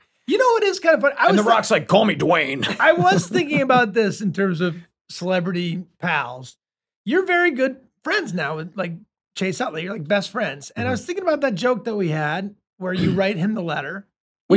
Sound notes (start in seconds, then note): 2.4 Rob laughs